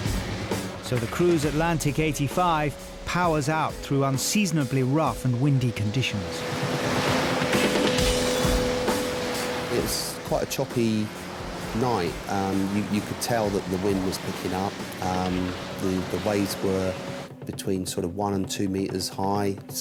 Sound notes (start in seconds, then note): 6.4 engine roaring; 8.2 bright rock music continues